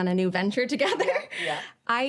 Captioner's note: chuckles